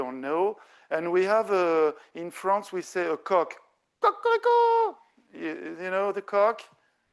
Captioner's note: speaking French